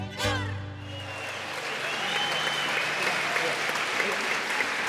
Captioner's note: audience cheering